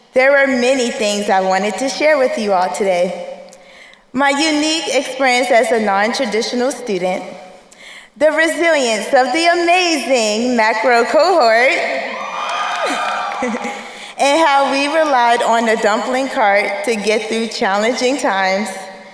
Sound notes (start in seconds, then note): 11.9 crowd cheering; 12.8 chuckles